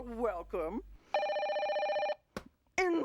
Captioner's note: phone rings